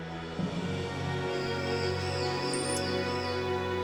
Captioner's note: animals screeching